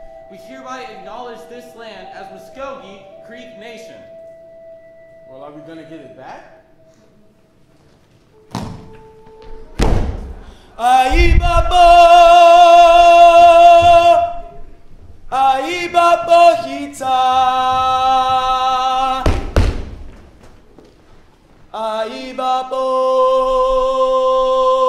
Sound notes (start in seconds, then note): 8.4 man thumping; 10.7 man chanting; 19.4 man stomping; 22.1 man chanting